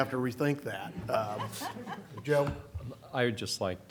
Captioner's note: laughter